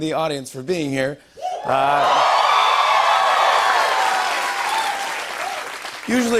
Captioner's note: cheers and applause